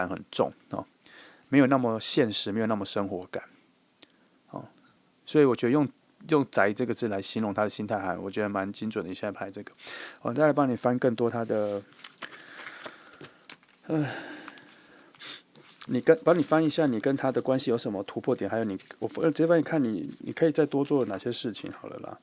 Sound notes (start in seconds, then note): 12.1 sigh